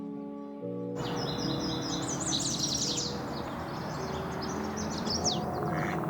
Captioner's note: birds chirping